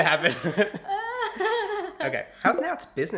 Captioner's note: laugh